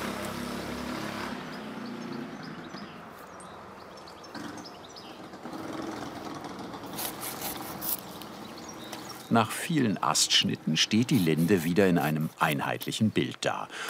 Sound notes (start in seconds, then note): 6.8 cutting noises